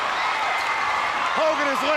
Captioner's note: crowd chattering